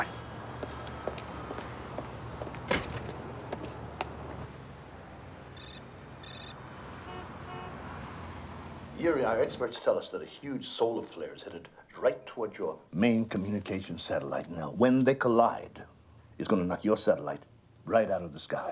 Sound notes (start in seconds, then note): 0.4 footstep; 6.2 car alarm